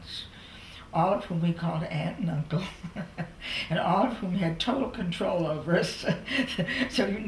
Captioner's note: laughter